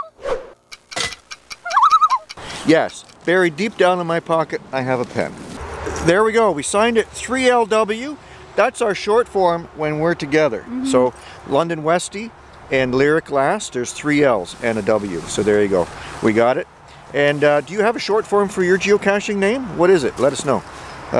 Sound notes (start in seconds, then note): 1.6 loon call